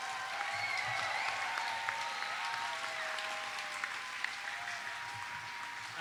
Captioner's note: audience applauds